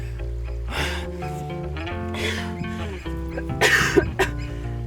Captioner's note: coughing